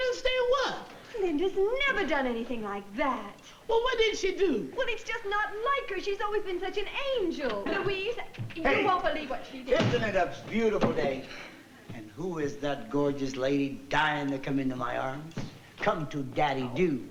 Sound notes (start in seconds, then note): none